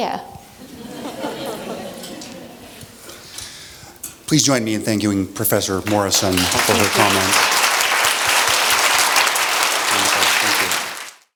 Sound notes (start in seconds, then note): 0.7 laugh; 7.3 applause